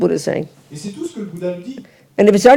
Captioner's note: audience member speaks in French